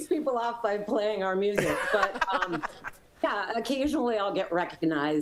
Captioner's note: laughter